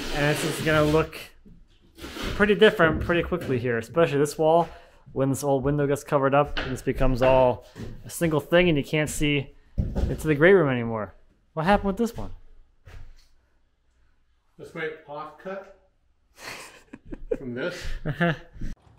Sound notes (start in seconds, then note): 16.4 laughing